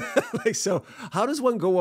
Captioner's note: laughs